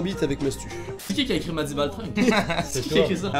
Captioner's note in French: Rires